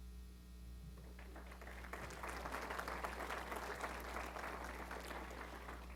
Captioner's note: applause